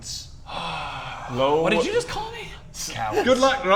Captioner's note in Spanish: suspiro